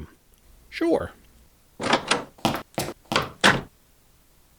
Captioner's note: door opening and closing